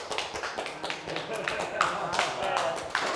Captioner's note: all applaud